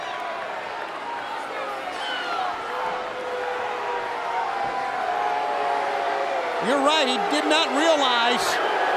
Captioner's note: crowd chatter